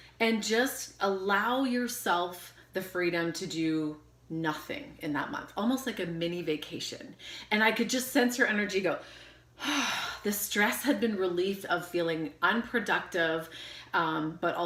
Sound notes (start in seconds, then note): 9.6 sighing heavily